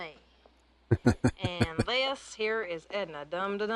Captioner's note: chuckling